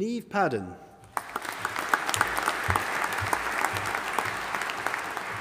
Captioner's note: audience applauding